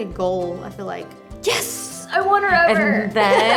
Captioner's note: laughs